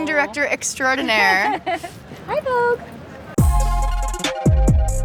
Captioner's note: laughs; upbeat music